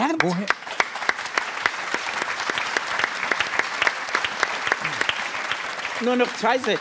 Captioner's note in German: Applaus